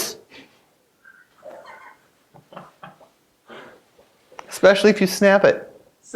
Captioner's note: laughter off screen